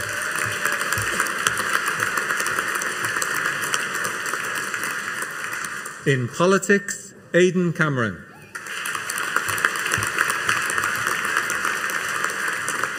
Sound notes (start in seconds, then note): 0.0 audience applauding; 8.5 audience applauding